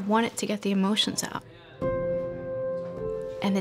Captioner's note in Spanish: Conversaciones indistintas